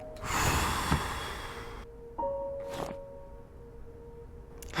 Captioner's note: sighing